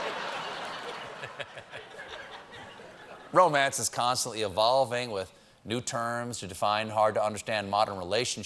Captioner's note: laughter